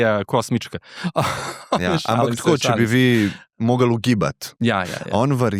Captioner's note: laughs